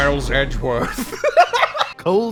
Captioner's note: laughter